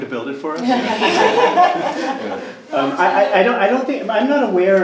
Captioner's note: group laughing